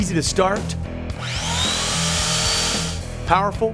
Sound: chainsaw sound

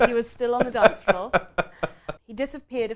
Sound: laughs loudly

